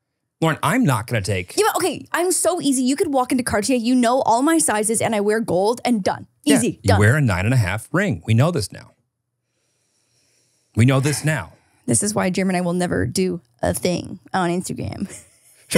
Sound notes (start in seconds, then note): 11.3 sighs; 14.9 laughs